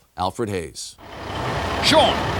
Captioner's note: truck humming